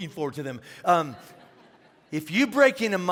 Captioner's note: congregation laughing